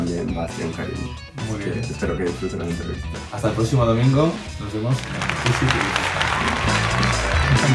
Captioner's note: applause